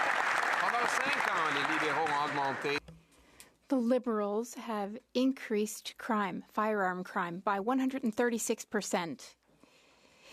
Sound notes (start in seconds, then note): 0.0 cheers & Applause; 5.5 speaking French